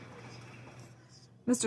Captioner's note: some Applause